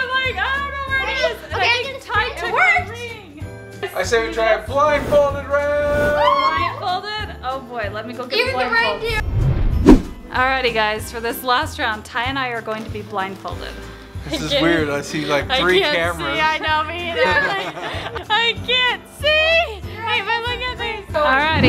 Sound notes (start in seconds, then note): 1.8 family talking excitedly